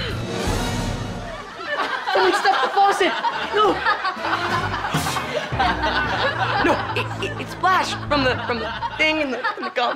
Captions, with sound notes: It was the faucet. No. [laughing] No. It- it splashed from the- from the thing and the gum-